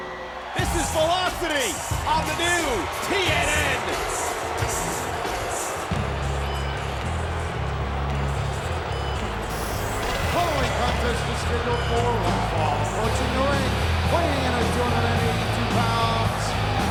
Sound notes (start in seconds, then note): 4.7 upbeat music; 9.2 announcer speaking faintly off mic